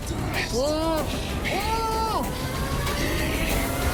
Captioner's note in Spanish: Gritos ahogados